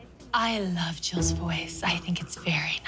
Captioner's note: deep voice